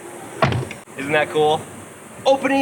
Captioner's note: car door closes